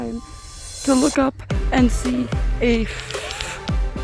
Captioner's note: swatting at fly